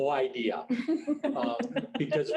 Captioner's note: woman laughing